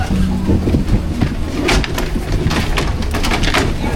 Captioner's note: skis clatter